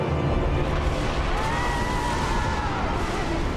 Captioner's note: thunder rumbling